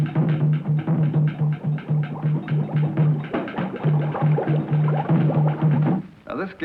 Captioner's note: drumming continues; water boiling sounds